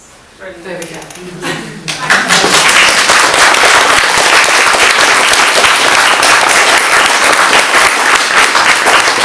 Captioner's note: audience clapping